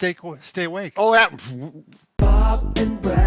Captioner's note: stammers